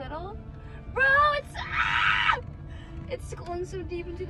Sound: screams

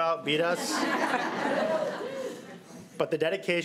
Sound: crowd giggling

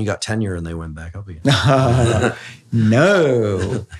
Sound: both chuckle

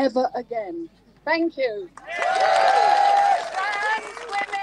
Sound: crowd cheers

